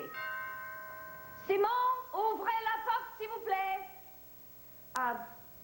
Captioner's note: doorbell rings